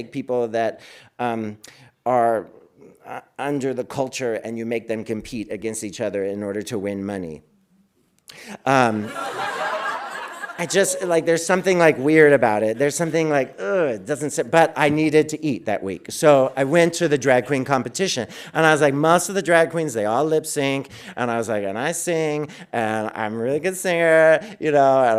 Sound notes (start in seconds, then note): 8.8 audience laughing